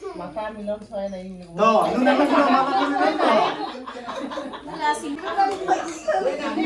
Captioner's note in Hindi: हंसी